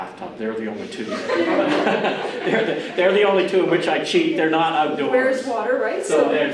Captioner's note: audience starts to laugh